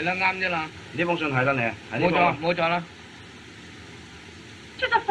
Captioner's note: men Speaking Chinese